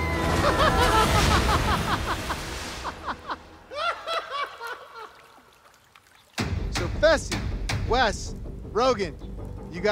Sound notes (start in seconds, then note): 0.8 laughs